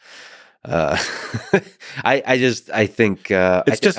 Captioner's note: Lex laughing